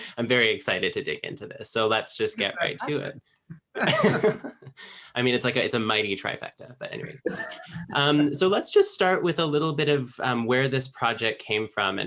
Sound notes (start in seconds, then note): 3.8 all laugh